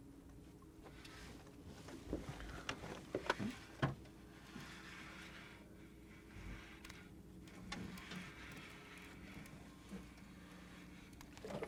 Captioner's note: reel cranking